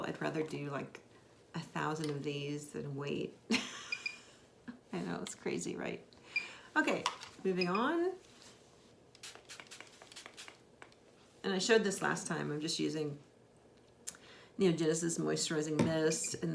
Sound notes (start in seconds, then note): 4.2 laughs; 9.2 bottle sprays